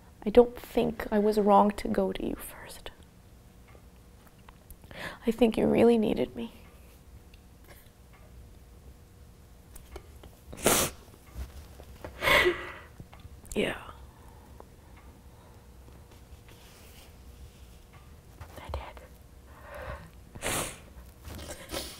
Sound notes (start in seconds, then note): 9.6 whispers; 10.6 sniffs; 18.9 whispers; 21.4 both sniff